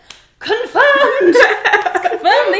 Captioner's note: laughs